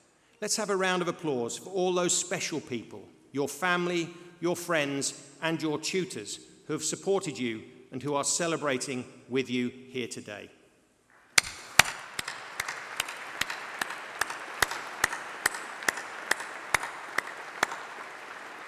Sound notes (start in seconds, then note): 14.4 applause